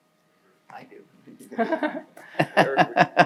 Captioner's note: laughs